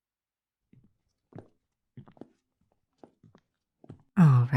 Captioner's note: footsteps as you follow Kalani